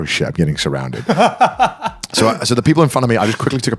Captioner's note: laughing